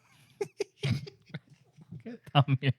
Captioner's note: laughing